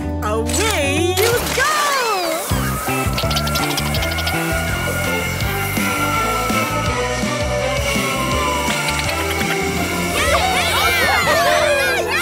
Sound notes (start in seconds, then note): 5.6 squeaking